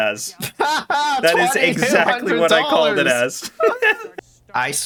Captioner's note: laughing